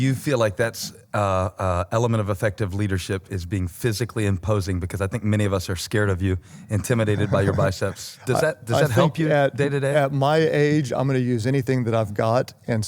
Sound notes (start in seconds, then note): 6.8 laughter